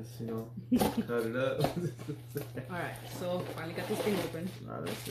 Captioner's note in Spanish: Risas